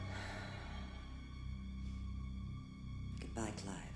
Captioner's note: Innocence sighs